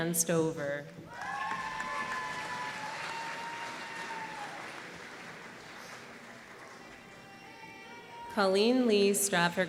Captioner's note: applause